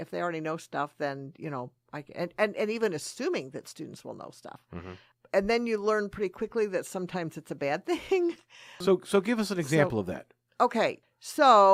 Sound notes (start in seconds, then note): 8.3 laughs